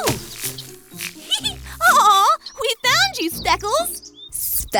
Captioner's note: laughs